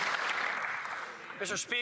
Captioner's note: applause